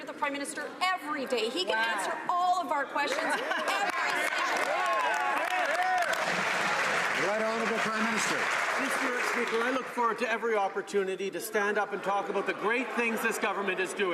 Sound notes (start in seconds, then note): 0.0 some Applause; 9.3 some Applause